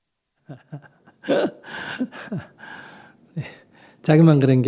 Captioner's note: Sunim Laughter